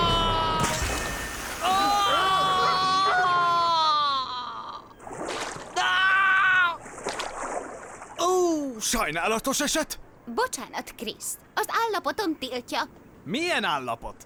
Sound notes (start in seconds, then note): 1.4 screams